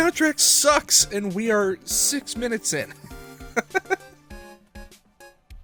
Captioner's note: chuckle